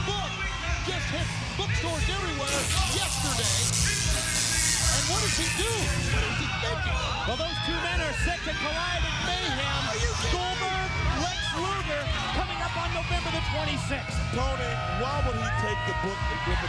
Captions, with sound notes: That book just hits bookstores everywhere yesterday. (electricity crackles) And what does he do? What is he thinking? Well, those two men are set to collide at Mayhem. Goldberg, Lex Luger, coming up on November the 26th. Tony, why would he take the book